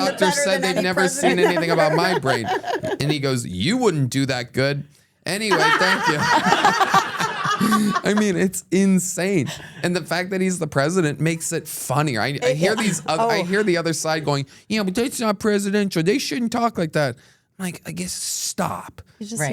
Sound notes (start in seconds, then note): 5.5 everyone laughs